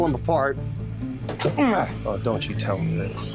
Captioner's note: rattle, grunt